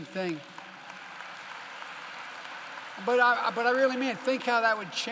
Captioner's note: applause